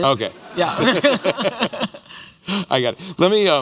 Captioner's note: laughter